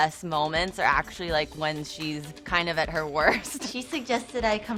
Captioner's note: laughs